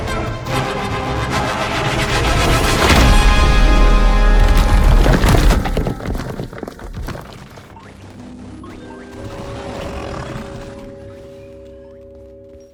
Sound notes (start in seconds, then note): 7.6 curious music plays; 9.0 Kaufmo growls